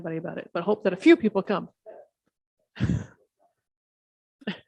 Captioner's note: chuckling